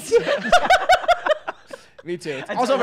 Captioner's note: laughs